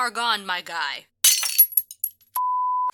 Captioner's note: glass shattering